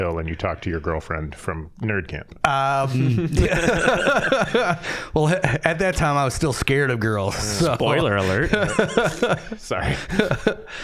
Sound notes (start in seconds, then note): 2.7 all laughing; 7.9 scattered laughing